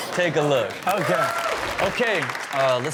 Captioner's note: audience cheer